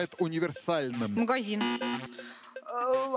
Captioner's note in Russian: пи-пи